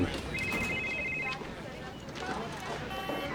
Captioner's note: phone ringing